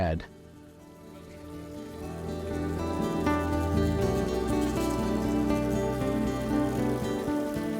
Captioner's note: insects calling; streamwater falling